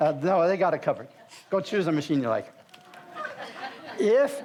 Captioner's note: audience laughs